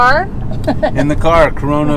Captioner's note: laughs